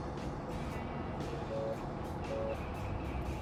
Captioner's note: phone ringing